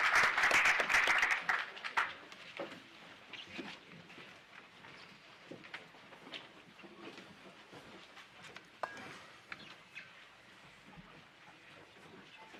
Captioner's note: applause